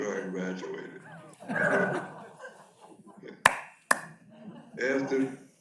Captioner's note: audience laughs